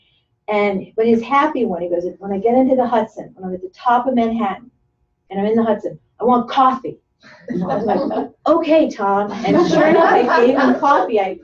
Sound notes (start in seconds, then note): 9.3 laughter